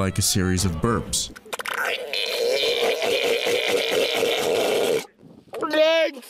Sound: seal vocalization

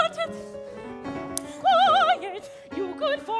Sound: hand slapping

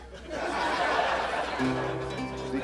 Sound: laughter

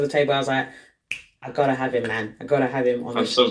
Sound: snaps fingers

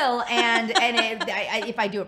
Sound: laughs

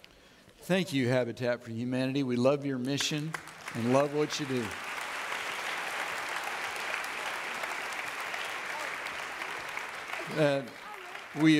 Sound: audience clapping

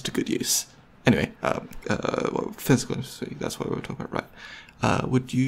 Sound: stutters

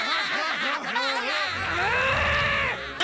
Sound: laughing; growling

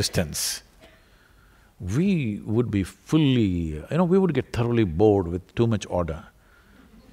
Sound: laughter

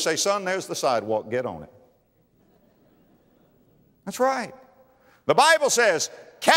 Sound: audience laughter

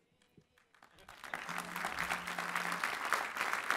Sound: applause

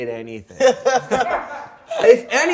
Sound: laughing

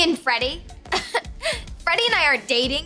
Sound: laughs

